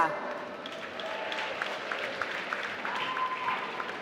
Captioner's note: applause